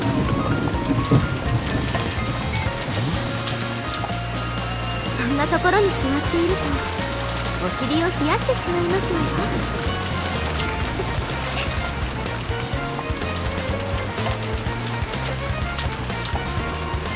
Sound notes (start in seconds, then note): 11.5 giggle